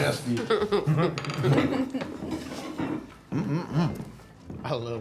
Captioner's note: group laughs